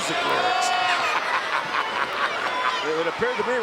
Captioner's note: Ted laughing